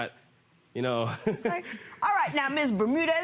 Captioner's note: laughing